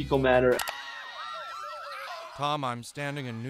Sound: ambulance sirens; people screaming

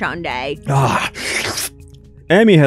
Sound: slurps violently

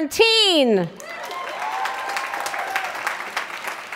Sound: applause

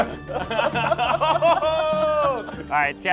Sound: laughing

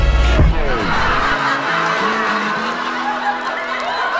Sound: crowd laughing

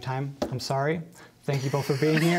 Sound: laughter

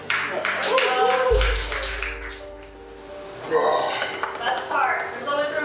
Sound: crowd cheering and clapping

